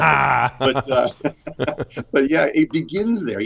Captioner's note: laughing